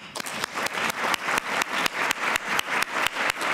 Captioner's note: applause